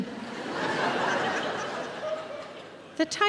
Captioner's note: audience laughing